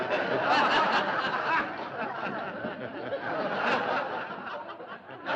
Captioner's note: laughter continues